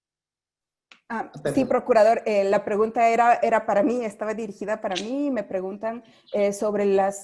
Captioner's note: speaking foreign language